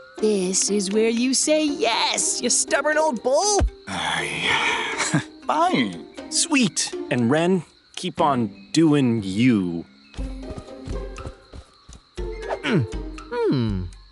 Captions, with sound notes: This is where you say yes, you stubborn old bull! [sighs] Heh… Fine. Sweet! And Ren, keep on doing you.